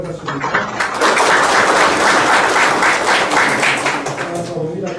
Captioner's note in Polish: oklaski